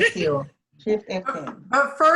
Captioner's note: laughs